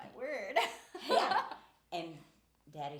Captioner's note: laughing